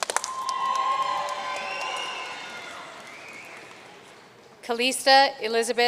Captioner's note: audience cheering and applauding